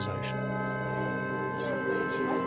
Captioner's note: alarm blares